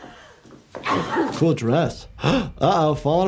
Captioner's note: gasps